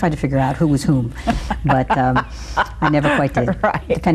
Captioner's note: laughs